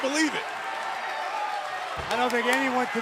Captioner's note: crowd cheering